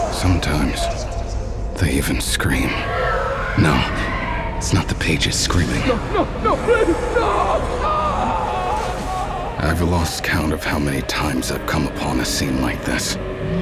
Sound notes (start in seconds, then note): 2.5 gritos etéreos; 7.9 grito